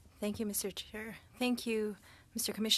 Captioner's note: speaking French